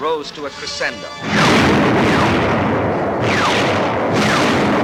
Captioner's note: bombs exploding